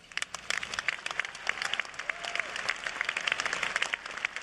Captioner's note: cheers and applause